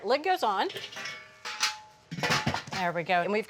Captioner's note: lid clangs